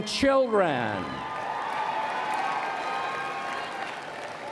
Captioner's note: applause and Cheering